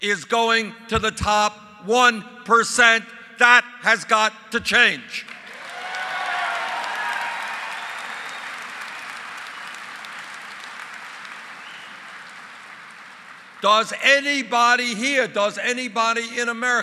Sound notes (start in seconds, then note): 8.1 applause